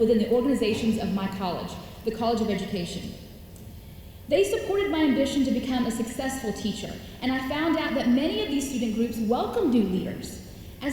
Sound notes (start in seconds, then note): none